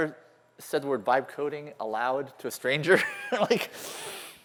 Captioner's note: laughter